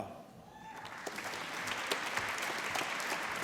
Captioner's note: applause